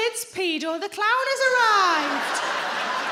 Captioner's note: crowd laughs